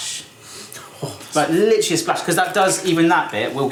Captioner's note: sniffs and gasps